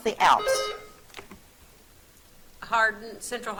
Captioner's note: buzzer trills